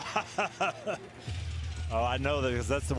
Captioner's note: laughs